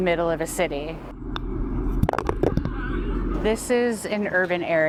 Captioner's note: golf ball plunking